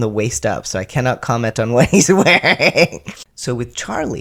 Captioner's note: laugh